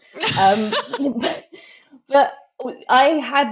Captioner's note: laughs